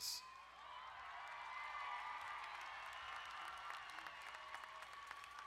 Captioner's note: crowd cheering and applauding